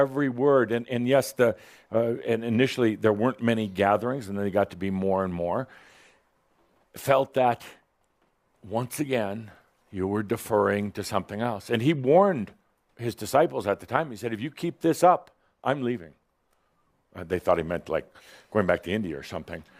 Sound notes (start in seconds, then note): none